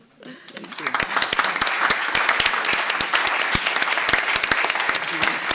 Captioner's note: applause